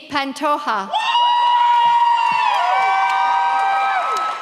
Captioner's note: audience cheers